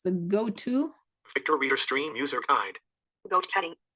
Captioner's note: Synthetic voice